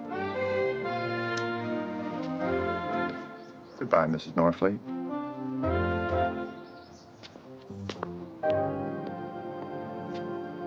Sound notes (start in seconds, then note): 1.2 footsteps shuffling; 7.4 mellow jazz music